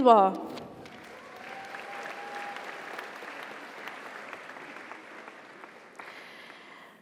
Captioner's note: audience applauds; audience cheers